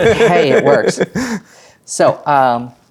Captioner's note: players laughing